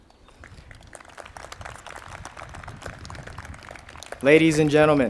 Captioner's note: crowd applauding